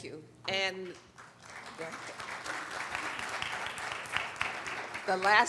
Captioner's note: applauding